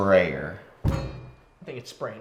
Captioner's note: metallic bang